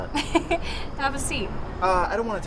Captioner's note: laughs